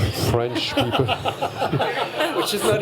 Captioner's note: laughter